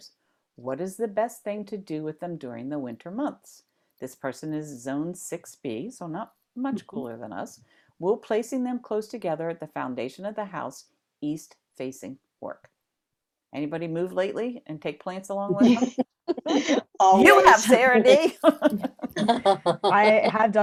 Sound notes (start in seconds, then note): 15.5 laughter